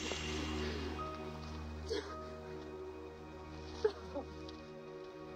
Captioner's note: soft sobbing